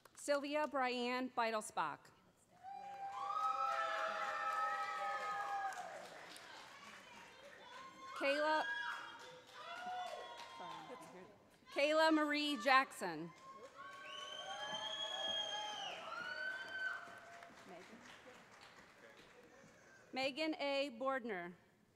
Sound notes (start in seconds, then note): 3.7 cheers; 13.1 cheers